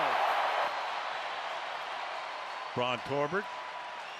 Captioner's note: cheers, applause